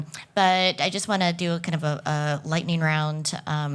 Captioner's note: none